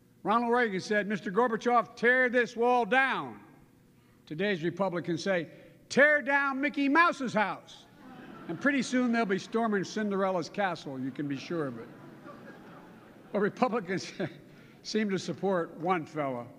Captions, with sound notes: Ronald Reagan said, "Mr. Gorbachev, tear this wall down." Today's Republicans say, "Tear down Mickey Mouse's house." (Laughter.) And pretty soon, they'll be storming Cinderella's Castle, you can be sure of it. But Republicans seem to support one fella --